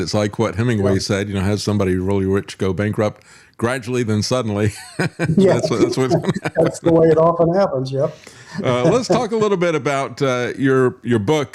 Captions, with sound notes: It's like what Hemingway said, has somebody really rich go bankrupt gradually than suddenly. (Laughing) That's what's coming out. That's the way it often happens, yeah. Let's talk a little bit about your book,